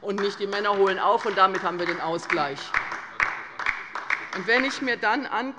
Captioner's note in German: Beifall bei der LINKEN